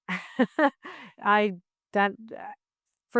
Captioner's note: laughs